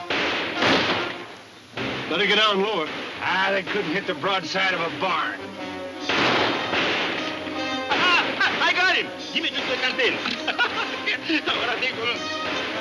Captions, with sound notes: - Better get down lower. - Ah, they couldn't hit the broadside of a barn. (guns firing) - I got him. Give me the canteen. (Poncho chuckling)